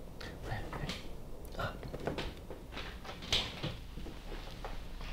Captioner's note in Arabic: تلعثم خفيف